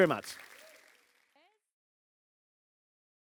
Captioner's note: audience applauding